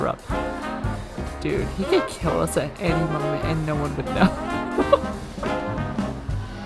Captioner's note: laughs